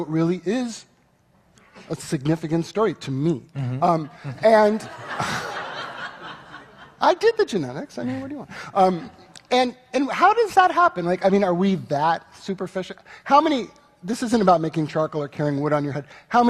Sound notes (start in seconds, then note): 4.0 audience laughing